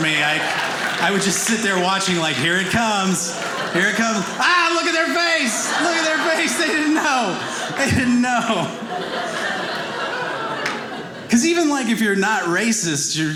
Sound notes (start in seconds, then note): 8.7 audience laughing